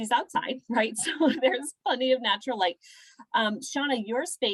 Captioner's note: laughter